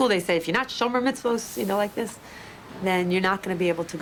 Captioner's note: speaks in foreign language